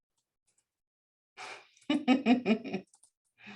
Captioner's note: laughs